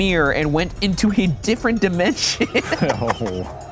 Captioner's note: laughs